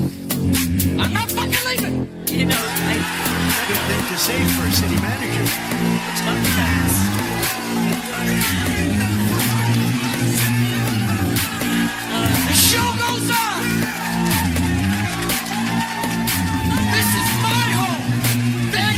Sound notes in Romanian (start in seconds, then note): 5.9 Aplauze; 13.9 Aplauze